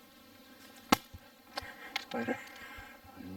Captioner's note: bang